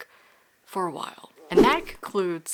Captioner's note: whoosh